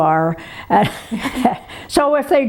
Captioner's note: laughs